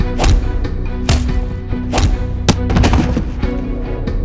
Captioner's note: dramatic music; body punches